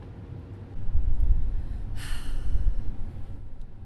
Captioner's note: sigh